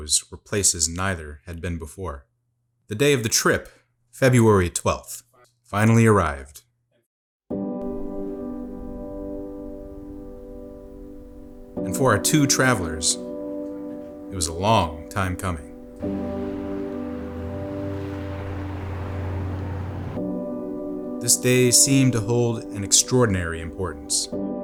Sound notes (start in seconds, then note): 17.5 car noise